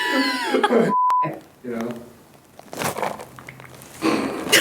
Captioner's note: beep; laughs